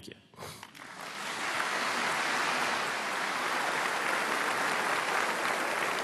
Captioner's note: applause